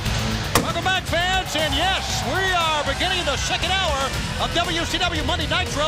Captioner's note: crowd cheering